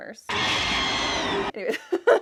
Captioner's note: screeching